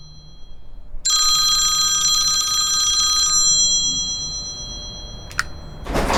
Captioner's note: phone ringing; click!